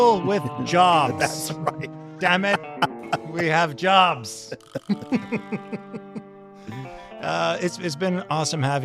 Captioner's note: laughs